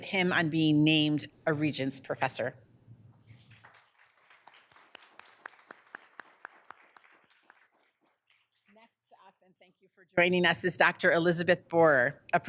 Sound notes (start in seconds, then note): 3.2 people clapping